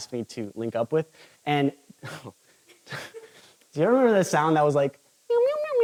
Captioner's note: chuckles